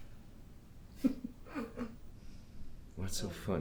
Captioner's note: Vanessa laughs